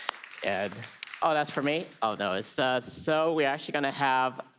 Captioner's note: applause